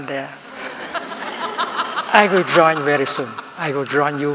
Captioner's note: laughing